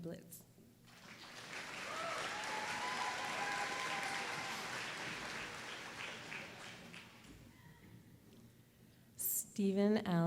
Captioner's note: applause